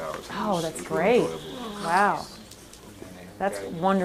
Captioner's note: voiceover